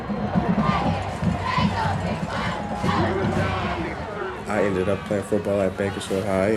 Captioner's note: cheering